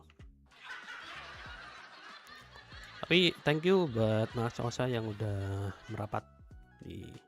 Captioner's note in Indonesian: tertawa